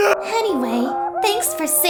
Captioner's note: Barret cheers in the background